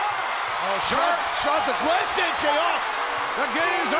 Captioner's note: commentator speaks faintly